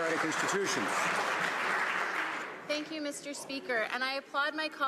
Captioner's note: some Applause